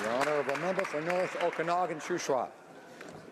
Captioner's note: applause